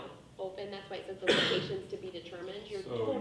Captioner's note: coughing drowns out speaker